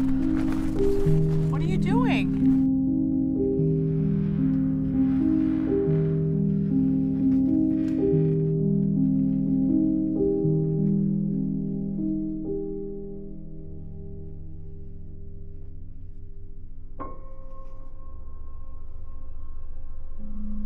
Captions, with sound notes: What are you doing? (somber music continues) (wood squeaking) (unsettling minimal music)